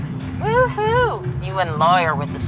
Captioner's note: on phone